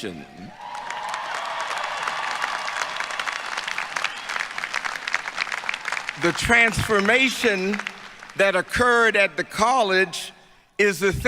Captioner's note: applause